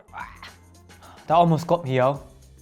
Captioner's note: gagging